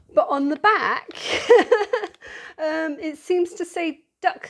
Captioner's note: laughing